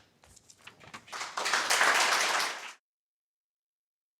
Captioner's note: audience applauding